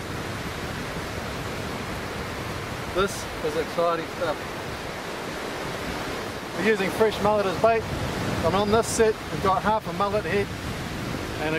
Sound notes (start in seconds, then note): 1.0 waves crashing; 4.9 waves crashing